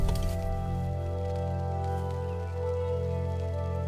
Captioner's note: electricity crackling; flame crackling